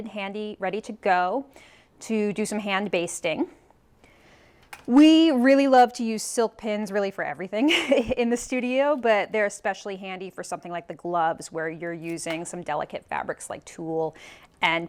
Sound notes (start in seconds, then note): 7.7 chuckles